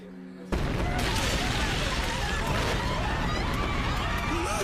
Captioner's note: crowds scream